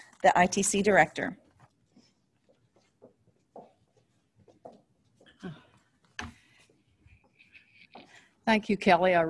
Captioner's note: silence